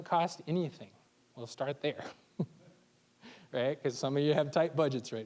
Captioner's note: chuckling